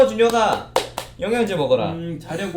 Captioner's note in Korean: 짝 짝